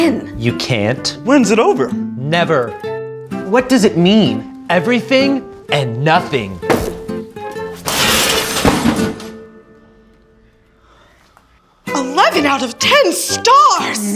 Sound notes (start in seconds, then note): 7.7 smashes Screen